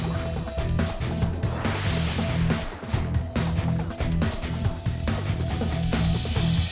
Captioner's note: rock music; graphic whooshing